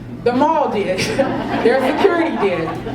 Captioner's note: laugh